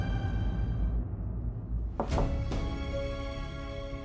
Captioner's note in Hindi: none